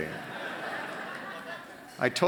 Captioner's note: laughter